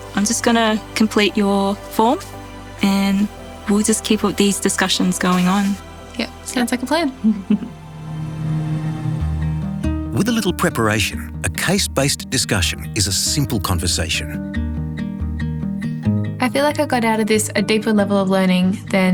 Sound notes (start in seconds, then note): 7.3 preceptor chuckles; 14.5 quiet music